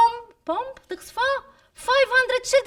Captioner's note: speaking arabic